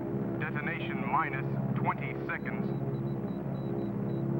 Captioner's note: man On Radio; telegraph machine beeping